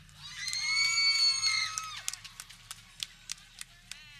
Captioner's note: people cheering